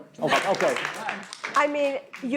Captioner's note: audience laughing